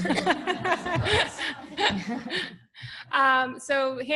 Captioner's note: laughter